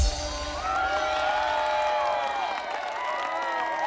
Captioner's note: cheering and applause